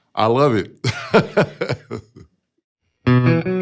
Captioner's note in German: lacht; spielt gitarre